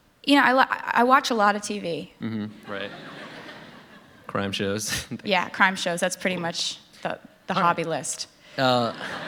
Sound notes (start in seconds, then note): 2.6 laughter; 8.8 laughter